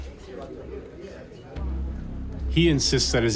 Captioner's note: people chattering